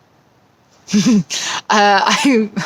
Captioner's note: chuckles